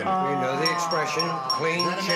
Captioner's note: bell dinging